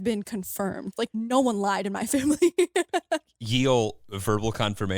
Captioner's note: laughs